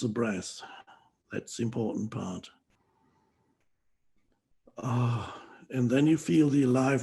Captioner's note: exhales loudly